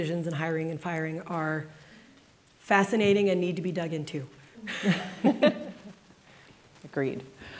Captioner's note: laughs